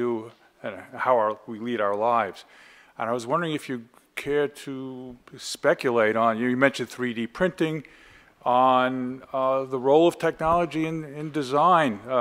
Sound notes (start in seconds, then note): none